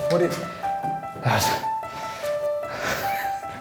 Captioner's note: grunts; laughs